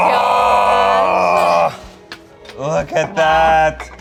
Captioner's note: groaning